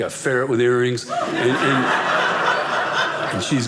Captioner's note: audience laughing